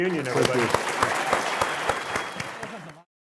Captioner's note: clapping